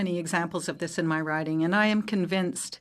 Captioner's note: speaking French